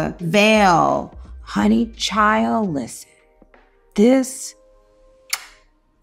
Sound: blows kiss

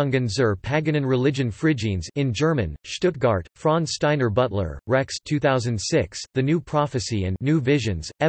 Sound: in German

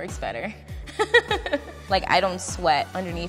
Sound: laughs

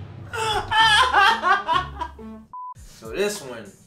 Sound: laughing

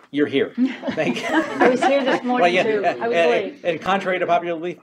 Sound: all laughing, chattering; chuckles

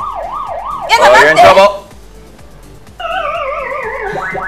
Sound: game beeping; speaking in foreign language; game beeping

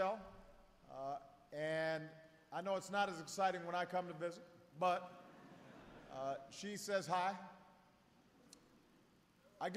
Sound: laughter

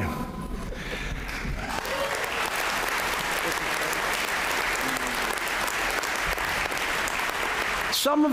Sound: applause

